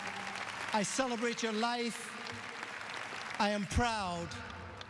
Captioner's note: apppplaususe